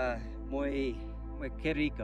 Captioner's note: speaking in foreign language